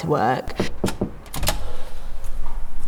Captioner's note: knocking on door